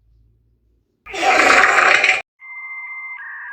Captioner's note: gross fart sound